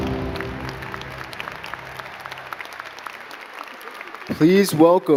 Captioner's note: gentle music; crowd clapping